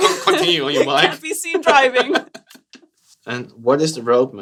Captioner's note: laughter